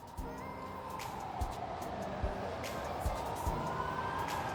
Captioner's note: sirens whirring